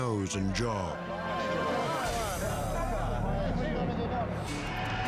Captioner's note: crowd chatters